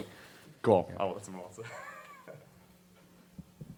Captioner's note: man mumbles and laughs at mic